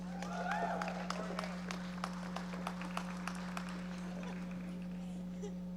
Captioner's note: audience members applauding